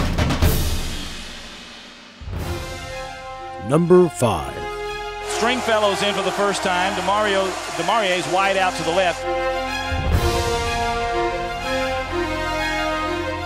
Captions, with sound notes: - [Voiceover] Number five. - [Voiceover] Stringfellow's in for the first time. Demarye's wide out to the left. (dramatic orchestral music)